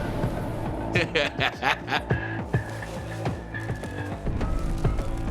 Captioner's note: suspenseful music; laughs